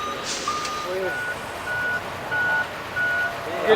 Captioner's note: crane beep